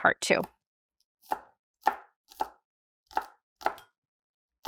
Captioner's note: knife chopping